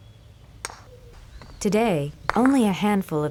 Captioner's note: ball clacks